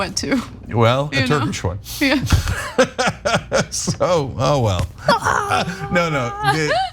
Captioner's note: laugh